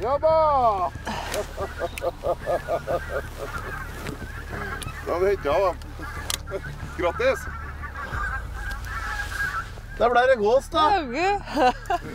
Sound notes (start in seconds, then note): 1.0 giggles